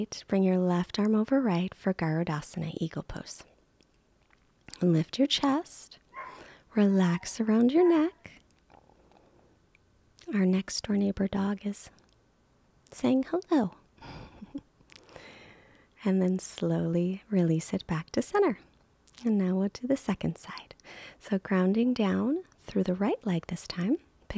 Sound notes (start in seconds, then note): 6.1 dog barking; 14.0 chuckles